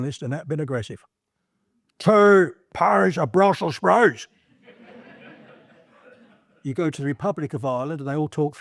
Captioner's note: in a Northern Irish accent